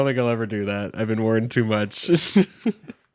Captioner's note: laughs